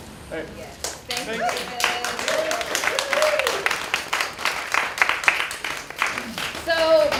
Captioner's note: applause